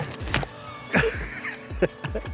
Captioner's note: laugh